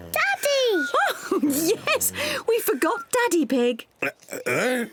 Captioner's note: laughs